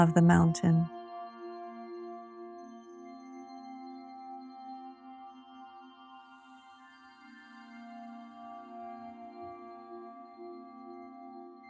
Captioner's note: silence